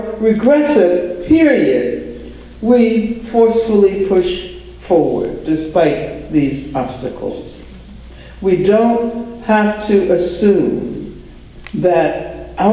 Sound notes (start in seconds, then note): none